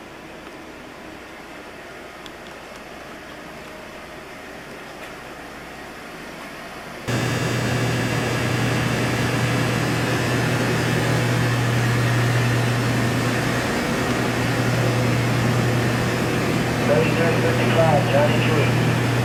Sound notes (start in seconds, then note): 1.5 machine noises from the generator room flow out of the doors; 7.0 insistent noise from the machinery breaks the peace; 16.7 another human voice reporting some numbers plays through a speaker